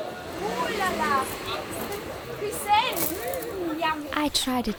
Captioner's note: in Turkish